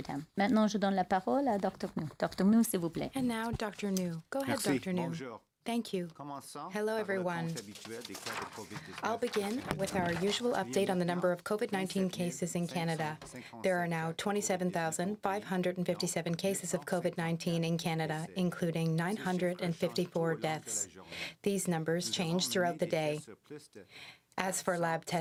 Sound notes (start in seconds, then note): 11.7 speaking French